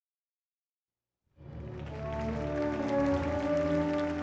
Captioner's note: applauding